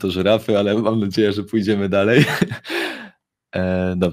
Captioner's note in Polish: śmiech